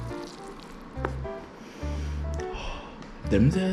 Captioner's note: sniff